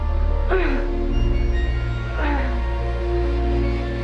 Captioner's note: grunting